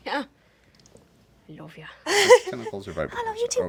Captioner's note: laughing